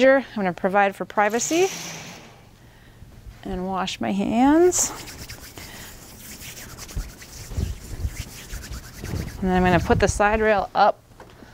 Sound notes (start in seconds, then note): 4.8 hands scrubbing